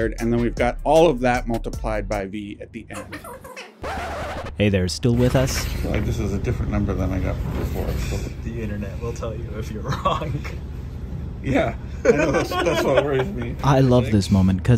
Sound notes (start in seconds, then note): 3.0 record scratching; 3.3 talking sped up; 10.4 laughs